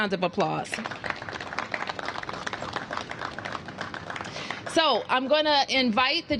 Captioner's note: applause